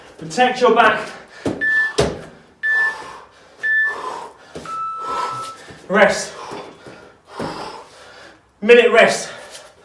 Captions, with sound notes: Protect your back. (beeping) Rest. (exhales sharply) Minute rest.